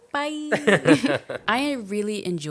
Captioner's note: both laughing